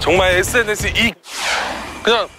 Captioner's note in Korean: 스윽